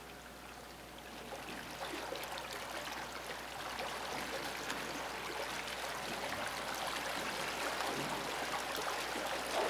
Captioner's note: flowing water sounds